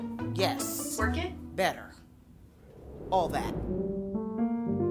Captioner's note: air whooshing; gentle music